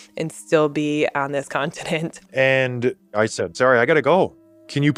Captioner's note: laughs